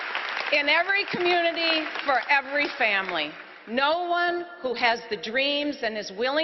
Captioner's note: applause